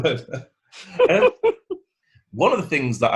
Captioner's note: laughing